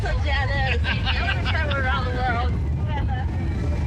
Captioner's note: laughs